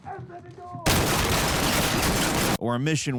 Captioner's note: guns firing